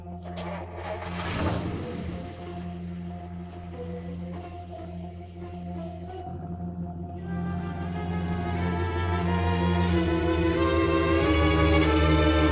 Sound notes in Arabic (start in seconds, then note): 0.0 هدير محرك السيارة; 7.5 موسيقى مشوقة